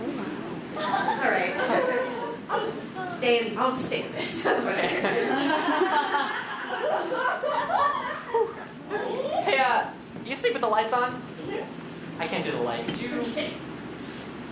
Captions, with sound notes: Alright. Haha. I’ll just stay in this. (audience laughter) -Hey, uh. Do you sleep with the lights on? -Mmhmm. -I can’t do the light. Could you—? -Okay.